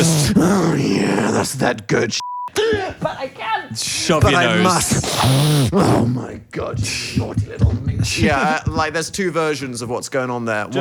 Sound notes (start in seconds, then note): 4.6 inhales